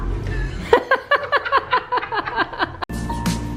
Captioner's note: laughter